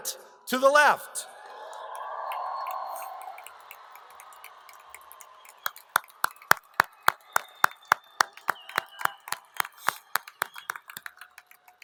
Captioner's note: applause